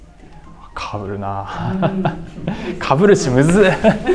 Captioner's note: laughs